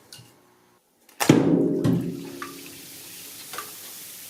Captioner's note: fizzing sound